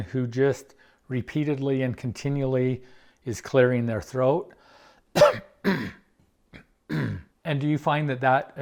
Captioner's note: clears Throat